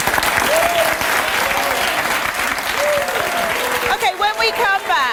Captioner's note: audience applause